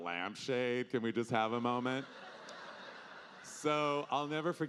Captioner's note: audience laughing